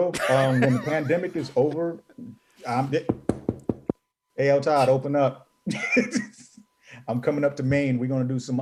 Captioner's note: knocking noise